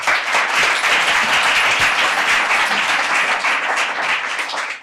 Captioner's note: audience applauding